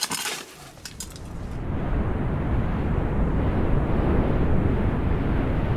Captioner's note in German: Donnergrollen